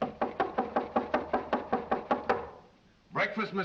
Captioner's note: knocks on door very loudly